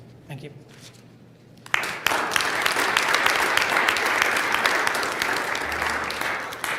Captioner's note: applause